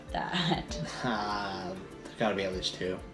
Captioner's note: laughs